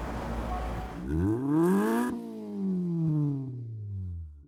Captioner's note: engine revs